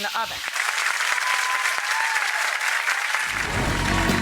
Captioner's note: audience applauds